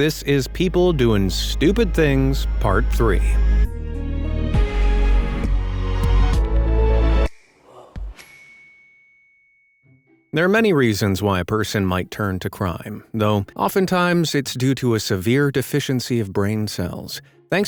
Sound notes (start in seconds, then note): 3.8 bright music; 8.2 bell dings